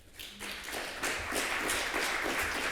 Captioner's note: applause